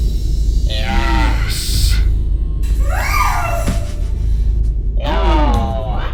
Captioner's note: shrieks